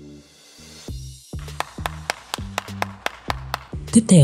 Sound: applause

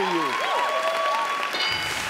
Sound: audience cheering; electronic dinging

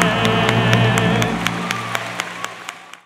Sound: all applauding

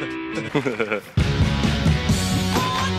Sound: relaxed electric guitar music; man sniggering

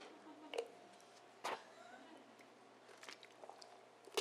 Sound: drinking

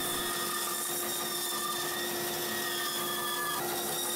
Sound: saw buzzing

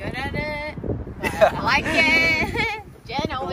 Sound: laughs

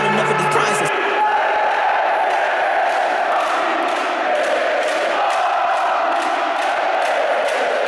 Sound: fans chanting

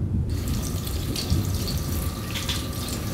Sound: water splashing

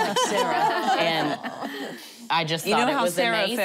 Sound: laughing

